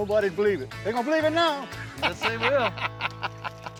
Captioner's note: laughing